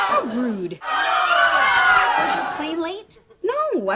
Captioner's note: despairing screams; frightened screams